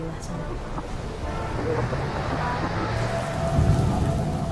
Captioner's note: distorted radio signals; rain pouring; thunder crashing